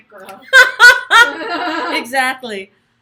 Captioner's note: laughs